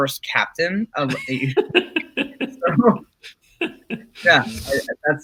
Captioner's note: laughing